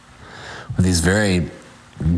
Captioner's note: none